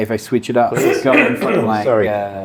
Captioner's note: coughing